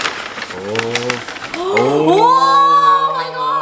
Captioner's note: exclaims in joy